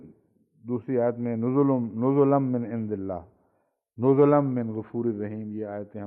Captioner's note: Arabic